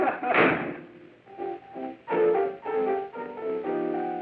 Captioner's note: laughing; door slams